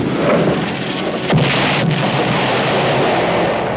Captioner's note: explosion